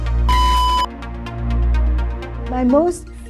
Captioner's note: electronic beep